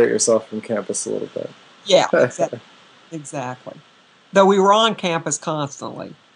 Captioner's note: laughter